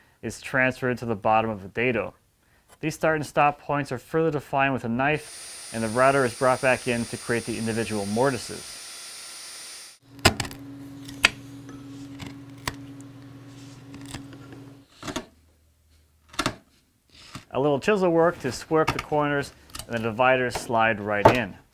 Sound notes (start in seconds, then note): 9.0 router buzzes; 11.0 wood crunches